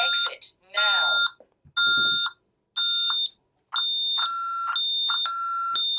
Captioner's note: beeping